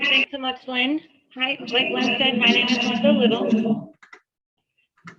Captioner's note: distorted sound